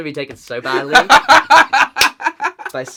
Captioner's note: laughs